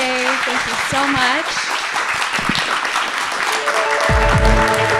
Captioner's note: applause